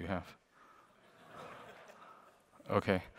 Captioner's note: laughter